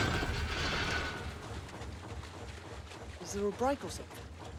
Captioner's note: engine sputters